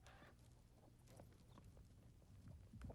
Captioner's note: none